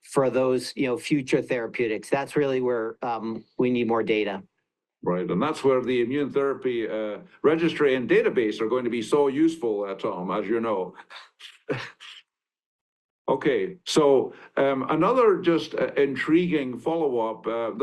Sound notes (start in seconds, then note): 10.4 chuckles